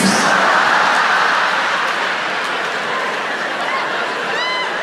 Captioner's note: audience laughs